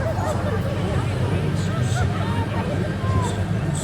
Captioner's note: riders laughing; riders chatting